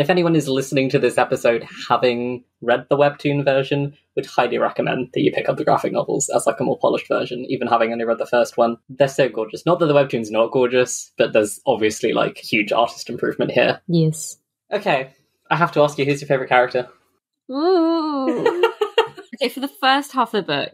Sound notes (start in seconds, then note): 17.3 whimpers; 18.1 laughs